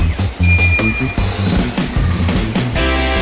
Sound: ding

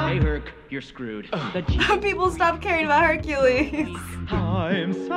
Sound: chuckles

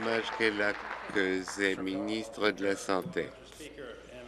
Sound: applause

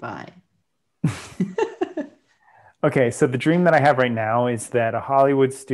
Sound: laughs

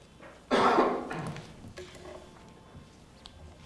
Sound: coughing

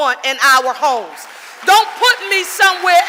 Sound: audience applauding

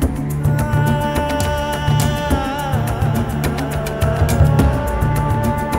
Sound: quavering voice continues

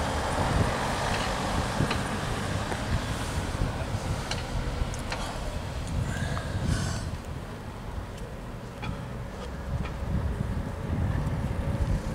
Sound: traffic noise

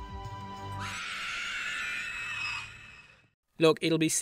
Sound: ringwraith scream

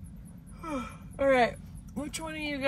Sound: yawns

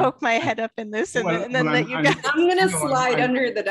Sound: laughter

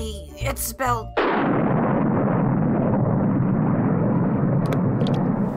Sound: thunder

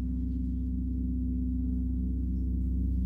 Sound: low gong

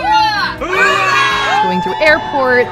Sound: cheers

